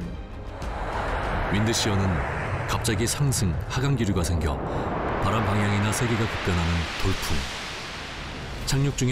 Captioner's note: Wind Shear